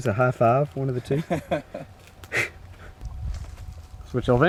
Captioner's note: laughing